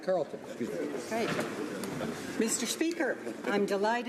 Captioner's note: speaking French